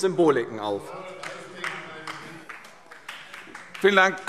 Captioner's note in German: Beifall DIE LINKE - Zurufe AfD